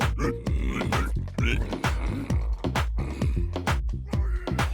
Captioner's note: low murmuring growls